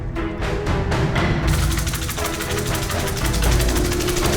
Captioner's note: dramatic music; rattle shaking